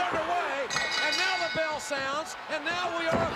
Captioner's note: bell dinging